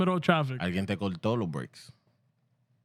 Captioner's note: speaking Spanish